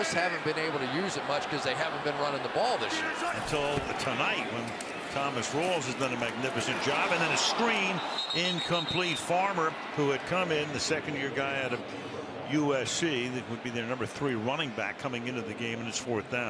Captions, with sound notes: And they just haven't been able to use it much because they haven't been running the ball this year. Until tonight when Thomas Rawls has done a magnificent job. And then a screen, incomplete. [whistle blowing] Farmer, who had come in, the second year guy out of USC, that would be their number three running back coming into the game.